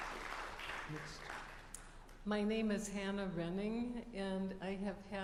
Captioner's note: applause